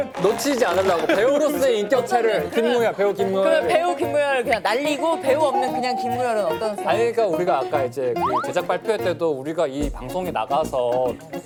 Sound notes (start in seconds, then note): 5.1 hahaha; 5.4 Actor Kim Moo Yul sobbing quietly